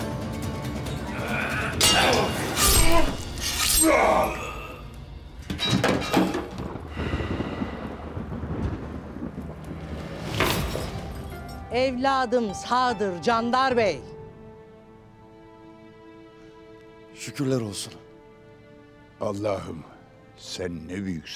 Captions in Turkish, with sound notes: (Dövüş sesleri) Evladım sağdır Candar Bey! Şükürler olsun. Allah'ım sen ne büyüksün.